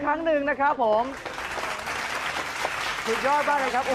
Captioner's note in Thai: เสียงปรบมือ